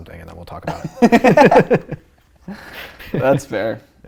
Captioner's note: laughing